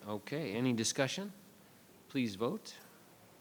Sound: none

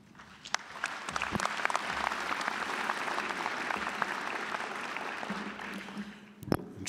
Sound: applause

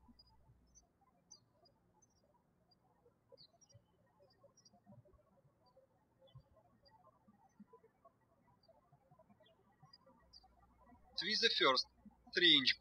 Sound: birds chirping

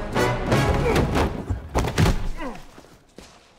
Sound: grunting

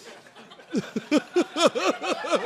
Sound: chuckling

